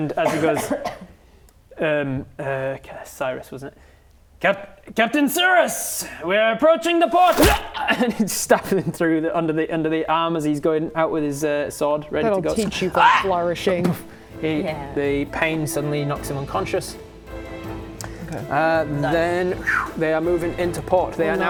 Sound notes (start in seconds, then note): 7.2 stab; 13.8 boof